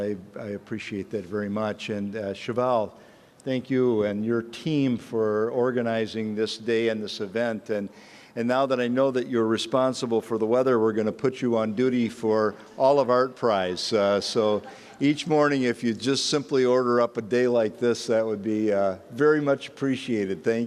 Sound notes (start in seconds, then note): none